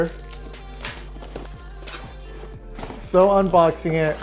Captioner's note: cardboard box being opened